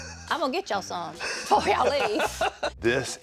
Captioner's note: laughs